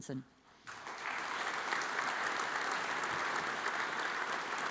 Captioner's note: audience applauds